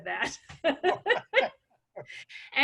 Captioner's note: laughs